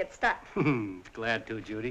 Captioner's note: chuckling